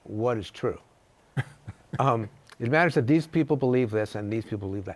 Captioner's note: chuckles